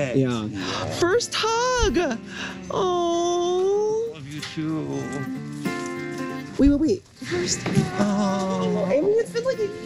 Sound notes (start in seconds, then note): 2.2 gasps